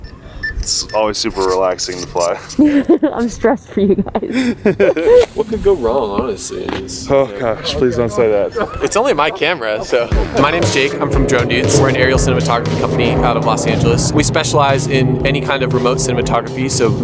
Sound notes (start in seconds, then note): 4.9 woman laughs